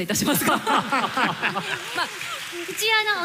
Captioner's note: laughter